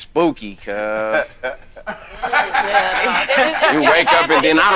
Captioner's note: group laughing